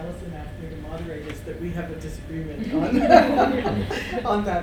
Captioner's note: laughs